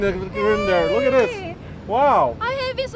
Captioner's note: cheering